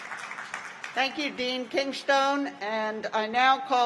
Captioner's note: applause